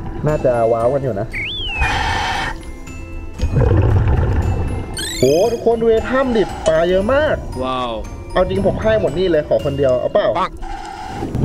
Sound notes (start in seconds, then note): 1.6 inhale; 3.5 exhale